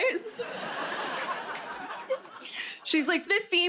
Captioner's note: laughter